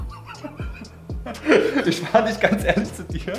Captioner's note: both are laughing